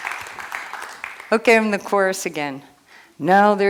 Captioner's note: applause